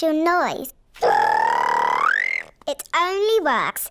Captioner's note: high-pitched whistle